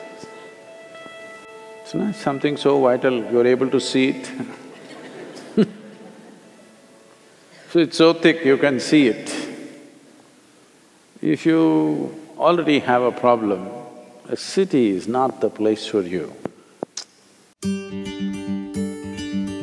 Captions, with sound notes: It's nice – something so vital, you're able to see it. [Laughter] See, it's so thick you can see it. If you already have a problem, a city is not the place for you.